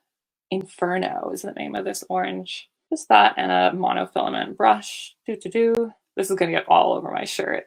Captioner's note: singsongy: do do do